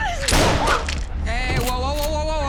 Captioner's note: gun firing